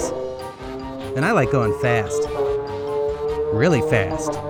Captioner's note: motorcycle noises